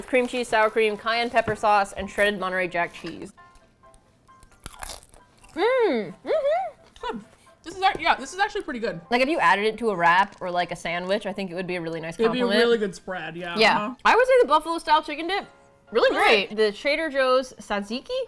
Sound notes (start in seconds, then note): 5.5 hums excitedly